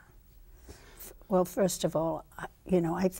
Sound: none

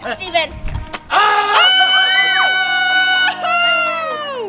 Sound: yelling

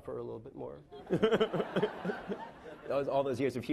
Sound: laughing

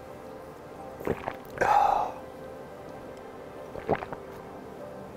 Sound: gulps and sighs

